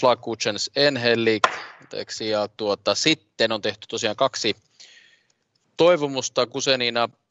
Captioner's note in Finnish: nuijan kopautus